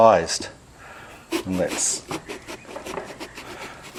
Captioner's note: slicing